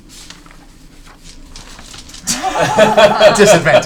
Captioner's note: all laugh